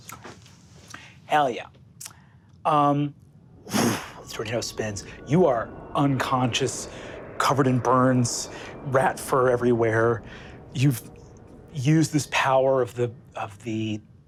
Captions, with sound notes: Hell yeah. (mimics air whooshing) The tornado spins. You are unconscious, covered in burns, rat fur everywhere. You've used this power of the crown,